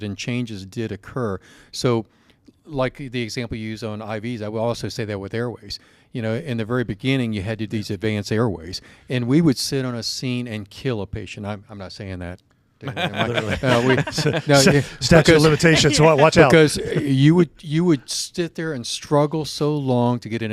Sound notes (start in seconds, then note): 12.8 panelists laugh